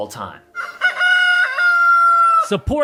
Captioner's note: rooster crowing